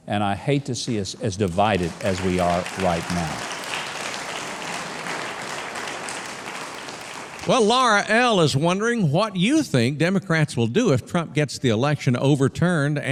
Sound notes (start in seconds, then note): 4.1 audience clapping